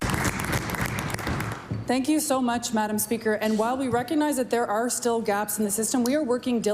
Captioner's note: cheering & Applause